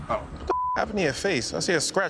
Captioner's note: beeps